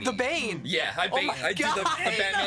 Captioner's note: laughing